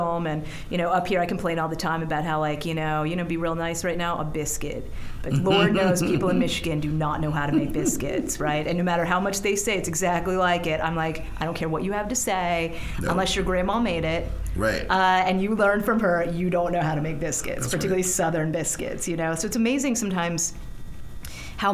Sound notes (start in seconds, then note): 5.3 chuckling; 7.2 laughing